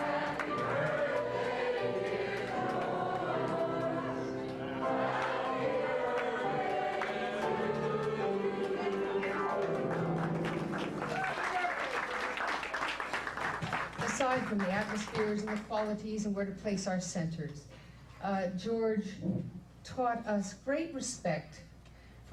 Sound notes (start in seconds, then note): 11.0 guests applauding